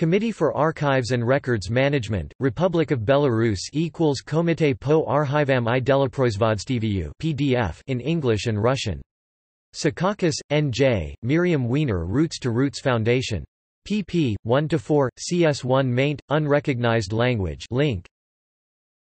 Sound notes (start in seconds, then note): 8.4 in English and Russian